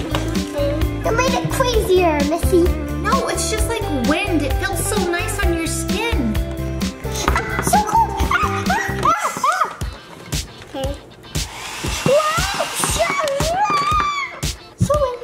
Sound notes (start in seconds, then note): 7.8 screams playfully; 11.3 hair dryer whirring